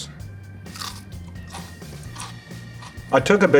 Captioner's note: pepper crunches